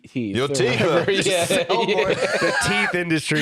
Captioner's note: laughing